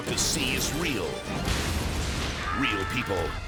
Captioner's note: aircraft crashes